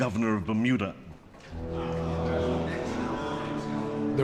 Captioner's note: murmuring from the Senate